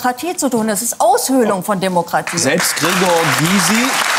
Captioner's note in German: Applaus